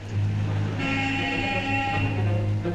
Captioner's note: car horn honks